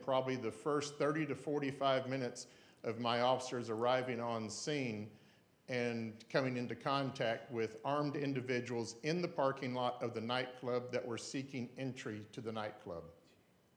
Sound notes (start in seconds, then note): none